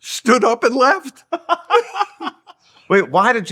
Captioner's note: laughing